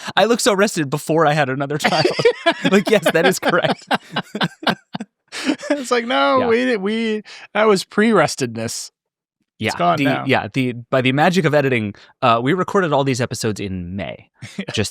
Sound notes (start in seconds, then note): 1.8 both laughing